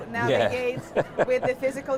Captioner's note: laughs